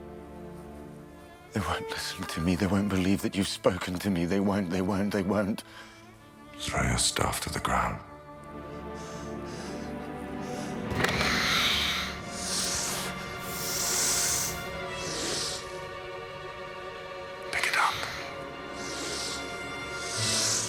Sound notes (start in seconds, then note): 9.4 hissing